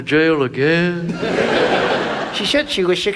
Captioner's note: audience laughs